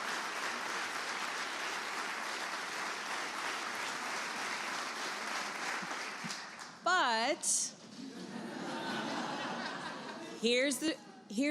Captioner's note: applause